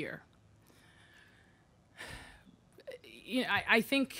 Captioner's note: sighing